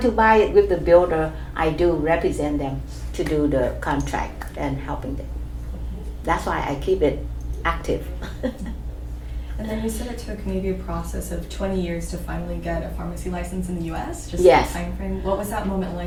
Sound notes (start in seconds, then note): 8.0 chuckles